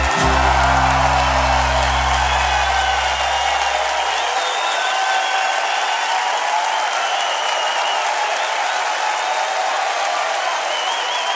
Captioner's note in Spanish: Aplausos y vítores